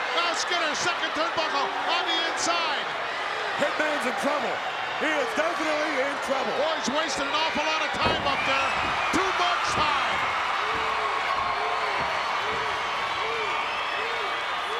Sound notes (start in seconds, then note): 10.1 crowd cheering